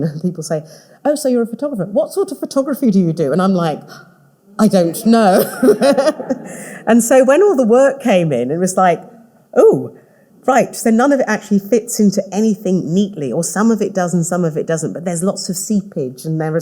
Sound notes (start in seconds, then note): 5.0 all laughing